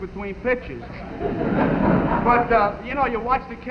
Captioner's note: audience laughing